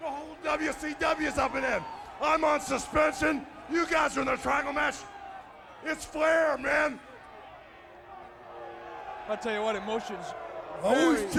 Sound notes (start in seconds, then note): 8.4 audience boos